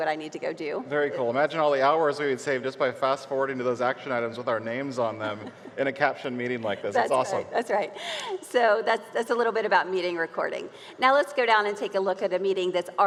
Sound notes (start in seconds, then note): 6.6 laughs